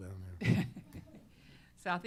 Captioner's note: laughter